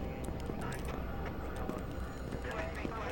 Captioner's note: office chatter